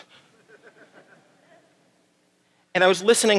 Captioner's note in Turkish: Gülüşmeler